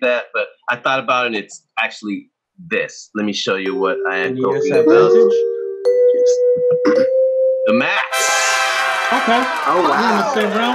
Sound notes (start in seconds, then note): 4.7 music drowns out speakers; 8.0 crowd cheers; 10.5 crowd cheering and applauding drowns out speaker